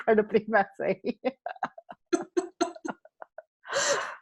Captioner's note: laughing